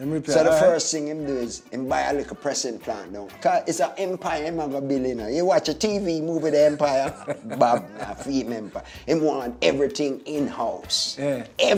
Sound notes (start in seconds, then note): 6.4 man laughs